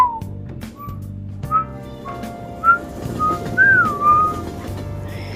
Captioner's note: whistles; whistling along with music